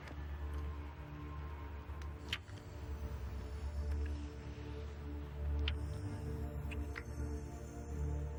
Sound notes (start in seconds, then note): 2.1 lips smacking over eerie electronic music